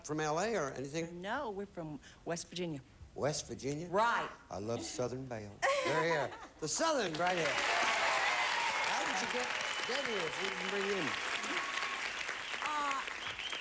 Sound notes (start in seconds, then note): 5.2 audience laughing; 7.0 audience applauding